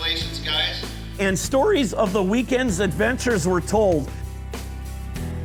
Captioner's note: voiceover